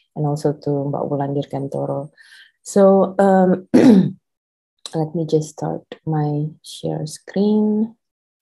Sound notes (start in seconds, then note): 3.7 clears throat